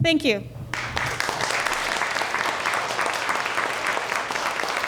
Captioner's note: audience clapping